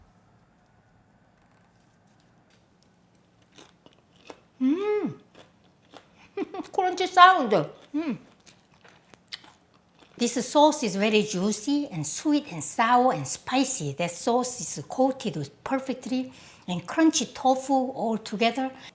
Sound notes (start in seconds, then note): 3.1 crunching; 6.2 laughs